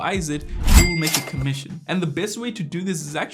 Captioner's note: cash register chimes